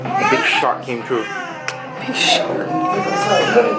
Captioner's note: chuckled